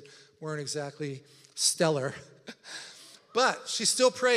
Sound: laughs

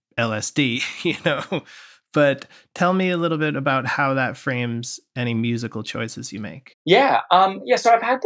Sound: laughter

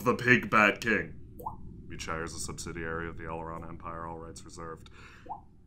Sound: mumbles quietly

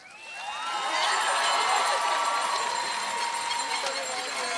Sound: cheers and applause

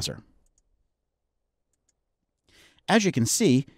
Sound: mouse clicking

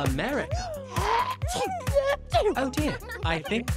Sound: sneezes

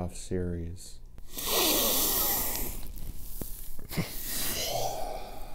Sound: heavy breathing

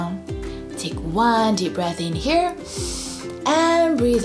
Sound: breathes in deeply

